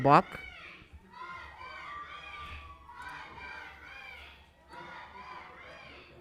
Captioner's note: protestors interjecting